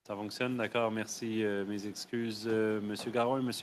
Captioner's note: speaking French